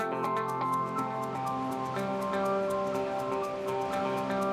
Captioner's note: water rushing